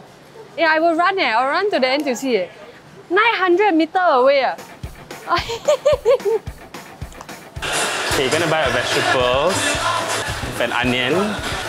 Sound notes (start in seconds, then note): 5.2 laughs